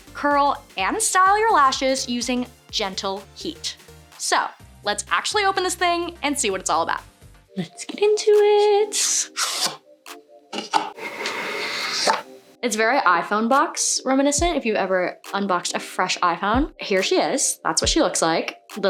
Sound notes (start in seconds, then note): 7.7 singsong